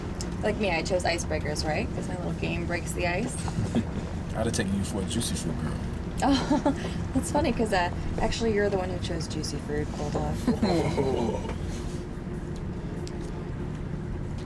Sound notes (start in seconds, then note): 6.2 laughs; 10.3 laughter